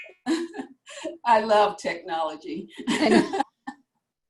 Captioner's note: laughs